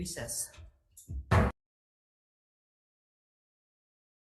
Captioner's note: gavel bangs